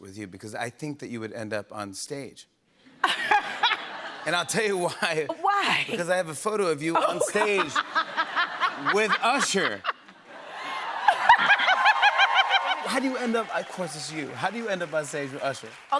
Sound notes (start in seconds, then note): 2.9 laughter; 9.5 laughter; 10.4 cheering